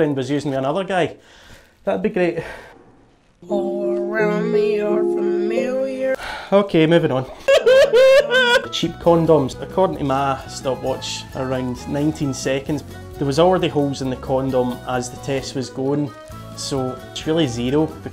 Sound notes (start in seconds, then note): 7.3 uncontrollable sobbing